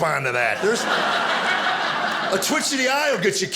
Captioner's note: audience laughing